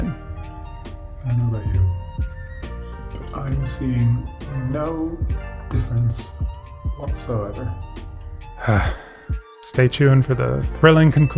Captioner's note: sigh